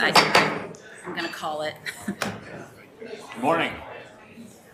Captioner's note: gavel bangs